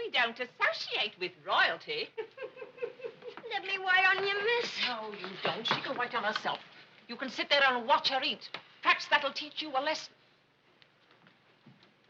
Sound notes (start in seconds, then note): 2.1 Minnie laughing